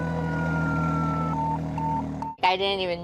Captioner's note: siren wailing; beeping